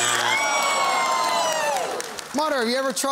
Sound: cheering and groaning

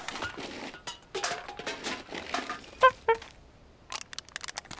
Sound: can clinging

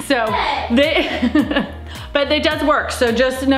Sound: laughs

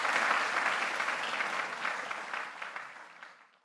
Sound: applause

